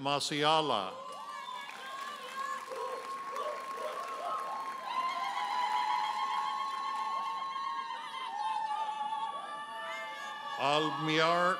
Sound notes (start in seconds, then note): 1.0 audience hollers and applauds; 5.0 audience members ululating